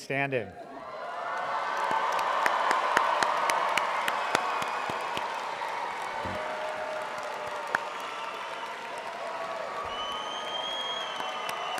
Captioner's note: audience applauding